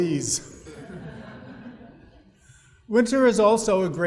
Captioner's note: audience laughing